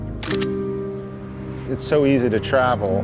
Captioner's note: camera snapping